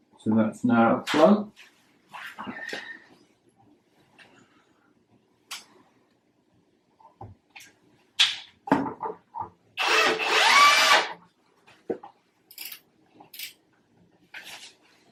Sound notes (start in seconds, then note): 1.1 drilling Noise